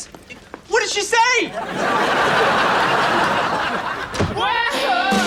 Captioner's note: audience laughs